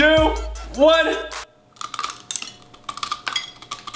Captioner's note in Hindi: चबाता है